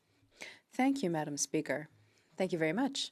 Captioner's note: speaking in French